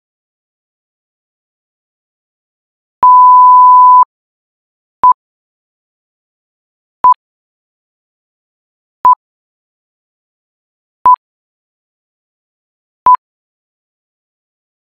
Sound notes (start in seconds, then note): 3.0 beeps